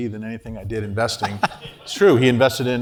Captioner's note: laugh